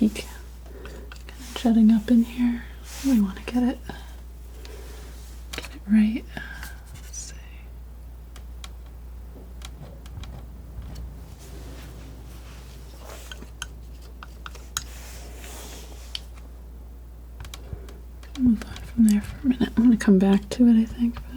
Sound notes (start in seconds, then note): 9.4 tapping